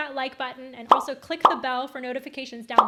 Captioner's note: buttons popping